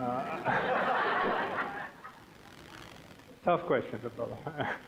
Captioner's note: audience laughing